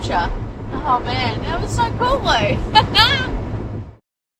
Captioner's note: laughs with joy